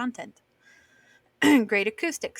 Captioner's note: clears throat